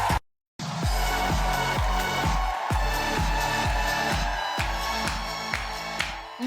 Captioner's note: energetic music; audience cheering